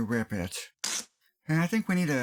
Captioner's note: rip!